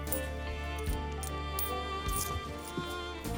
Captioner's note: coins clinking